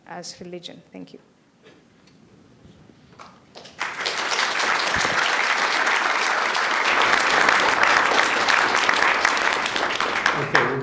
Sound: applause

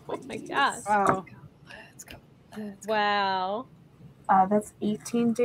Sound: chanting

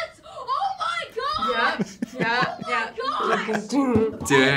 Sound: React laughs

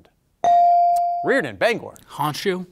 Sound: bell ringing

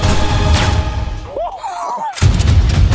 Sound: laughing

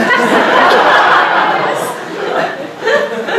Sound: audience laughing

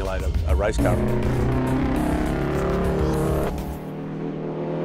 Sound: engine revving

